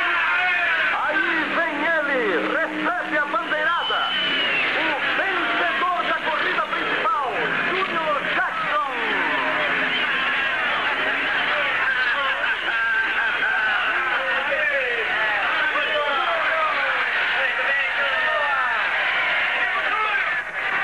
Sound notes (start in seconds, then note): 3.7 whistles; 9.0 cheering